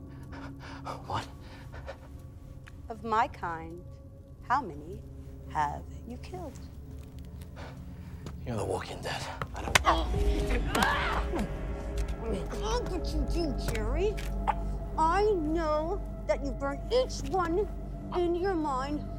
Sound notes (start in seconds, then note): 11.0 Marie shouting; 14.0 intense music continues